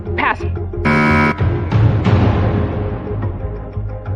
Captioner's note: buzzer sounds; dramatic sound effect; tense music